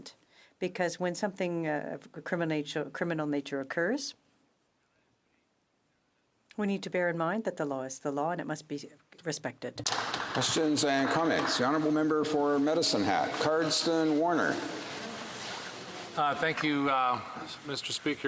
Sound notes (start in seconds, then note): 13.6 some Applause